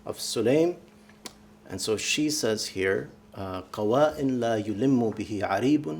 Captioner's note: speaking arabic